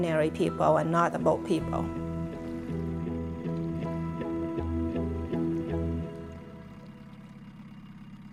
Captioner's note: sounds of boat motor and water